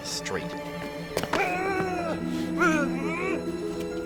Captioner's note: grunts